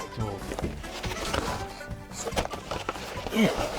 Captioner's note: packaging fumbles